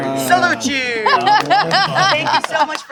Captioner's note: laughter